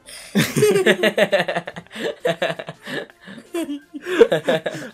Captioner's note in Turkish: gülüşmeler